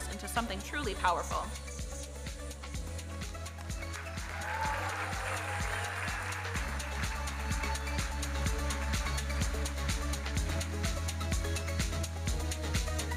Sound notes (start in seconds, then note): 3.5 audience cheering and applauding; 9.6 electronic dance music